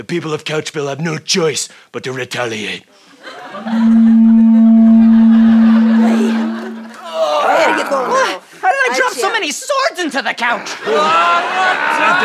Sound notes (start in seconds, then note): 3.6 blows horn; 6.7 grunting